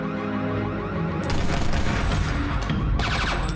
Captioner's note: gun firing